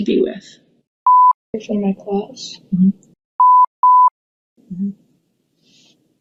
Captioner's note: beep